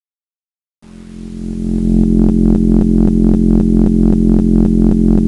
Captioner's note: container hums